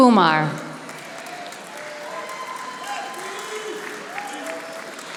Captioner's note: audience applauding